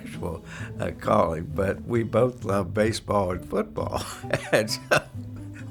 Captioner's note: laughter